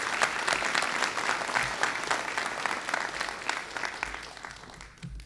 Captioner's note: applause